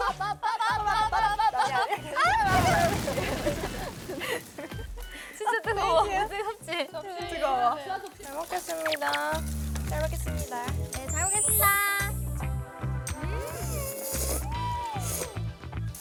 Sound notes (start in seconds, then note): 1.2 hesitant; 3.7 giggle; 13.5 slurp